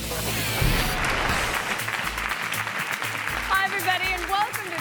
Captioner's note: audience applauds